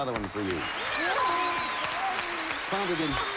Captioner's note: audience applauding